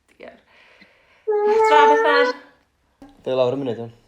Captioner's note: baby cries